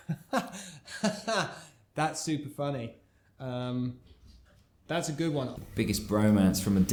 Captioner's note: laughs